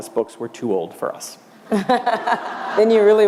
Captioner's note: laughter